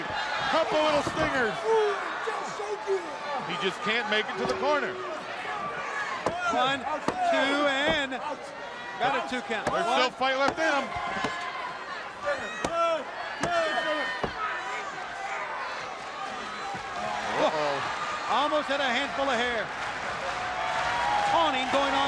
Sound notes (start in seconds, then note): 11.7 crowd chatter